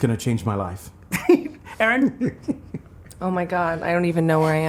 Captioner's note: laughs